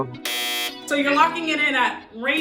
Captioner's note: buzzer sounds